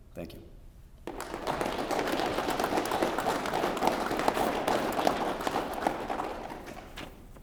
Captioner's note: applause